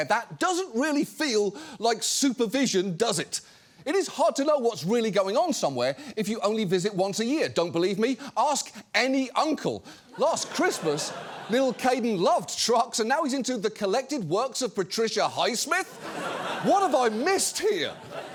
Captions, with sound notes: that doesn't really feel like supervision, does it? It is hard to know what's really going on somewhere if you only visit once a year. Don't believe me? Ask any uncle. “Last Christmas, little Kaden loved trucks and now he’s into the collected works -of Patricia Highsmith?" -(AUDIENCE LAUGHS) "What have I missed here?!”